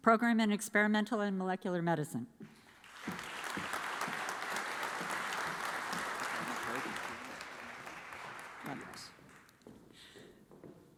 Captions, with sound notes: Program in Experimental and Molecular Medicine. (audience applauds)